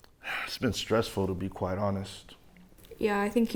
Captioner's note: sighing